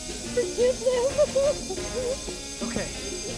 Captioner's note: explosive hissing; woman sobbing and praying